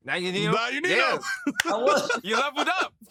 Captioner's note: laughter